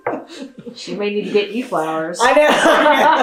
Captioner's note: laughter